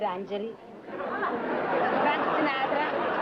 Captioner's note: laughter